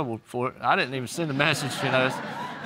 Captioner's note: audience laughs